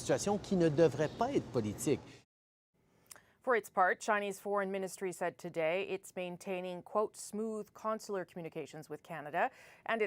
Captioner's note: speaking French